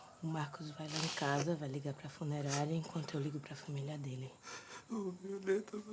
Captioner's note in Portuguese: sussurro